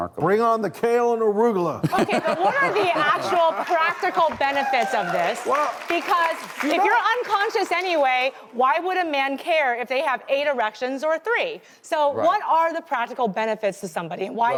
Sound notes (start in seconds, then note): 1.8 crowd laughs